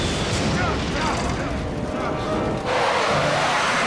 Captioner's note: lightning crashes; all groaning, grunting; plane whooshing